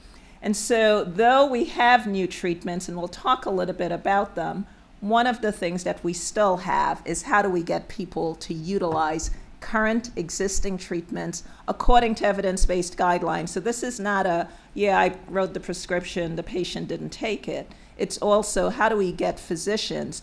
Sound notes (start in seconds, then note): none